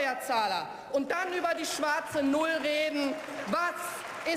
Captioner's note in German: Beifall